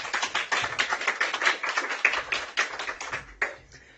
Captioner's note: applause